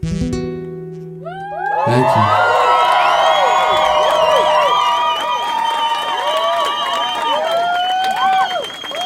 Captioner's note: applause